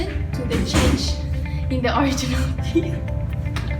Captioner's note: slam door